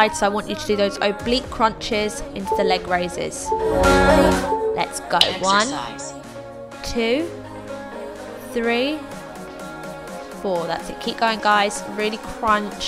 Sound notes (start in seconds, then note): 3.4 machine beeping